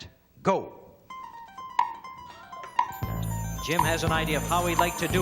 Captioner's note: clock ticking